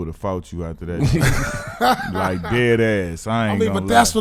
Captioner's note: laughing